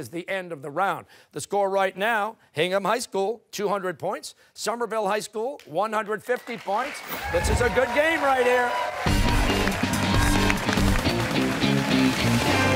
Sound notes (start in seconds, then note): 9.5 cheers and applause